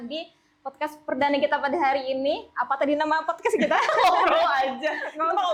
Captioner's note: laugh